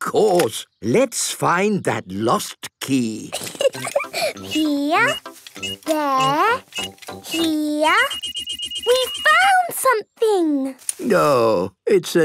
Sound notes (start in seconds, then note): 3.3 giggling; 7.8 beeping